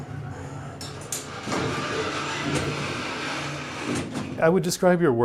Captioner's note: mechanical sound